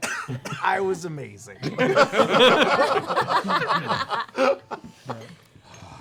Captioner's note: laughter